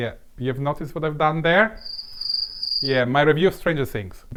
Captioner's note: crickets sound